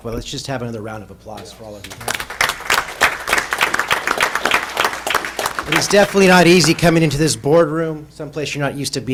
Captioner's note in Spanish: aplausos